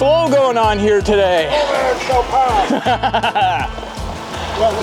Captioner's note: laughing